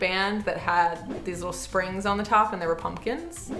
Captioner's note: air whooshing